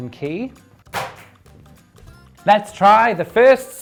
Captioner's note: paper and pen clatters